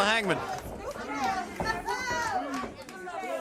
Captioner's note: crowd chatter